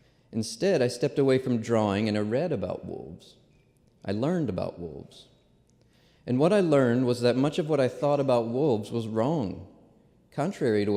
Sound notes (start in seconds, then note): none